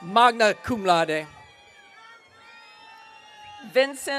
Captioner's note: audience cheering